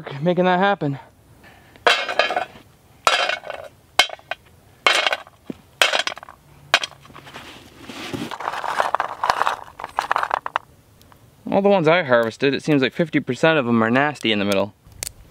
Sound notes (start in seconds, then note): 1.8 pecans clanking; 4.8 pecans clanking